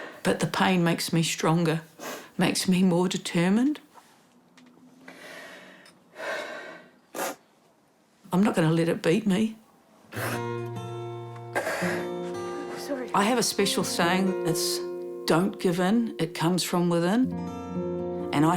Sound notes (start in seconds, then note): 7.1 puffs, sniffs; 10.1 sniffs, inhales sharply